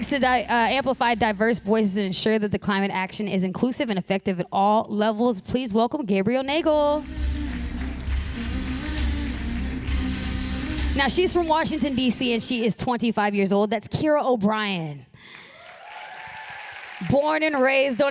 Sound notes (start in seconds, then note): 10.9 applause